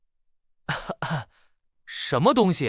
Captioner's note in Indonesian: batuk